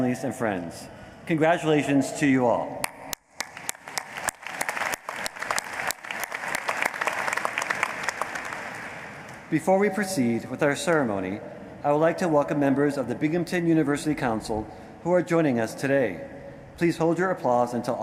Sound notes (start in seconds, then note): 7.2 applause